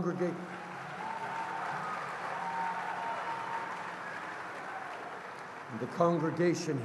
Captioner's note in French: Acclamations et applaudissements